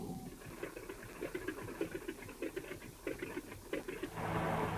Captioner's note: wheels rattling; car engine revving